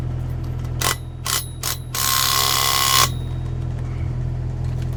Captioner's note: drill ringing